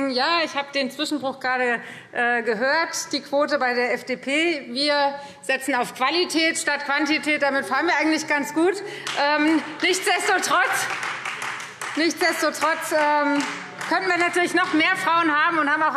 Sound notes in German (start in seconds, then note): 9.6 Beifall Freie Demokraten